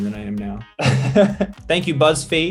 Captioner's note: laughs